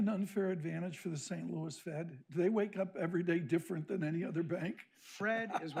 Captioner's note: laughs